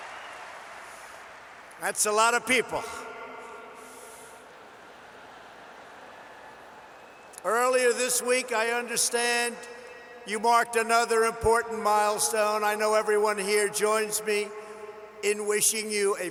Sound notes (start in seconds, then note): 0.0 applause; 4.8 laughter